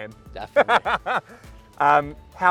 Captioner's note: laughs